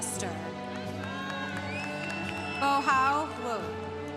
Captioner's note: congregation cheering